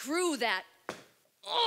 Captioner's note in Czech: dupnutí